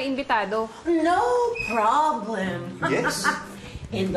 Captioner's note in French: chuckles